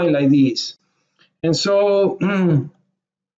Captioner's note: clears throat